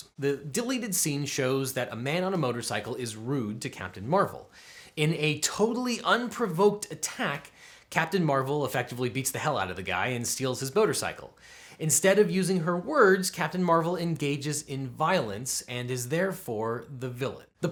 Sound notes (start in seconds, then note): none